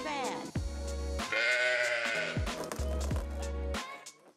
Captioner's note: sheep baaing